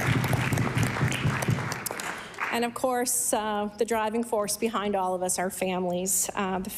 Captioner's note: applause